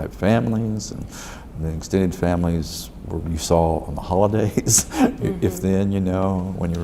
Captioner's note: laughs